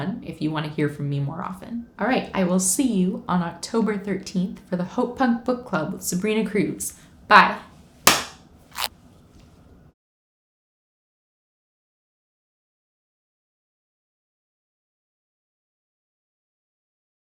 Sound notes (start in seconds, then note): 8.1 clap